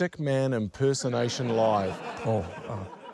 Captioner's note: laughter